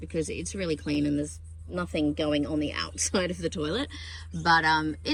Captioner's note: scoffing